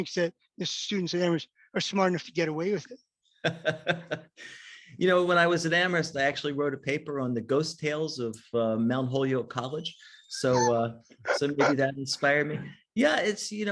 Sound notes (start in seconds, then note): 4.1 laughs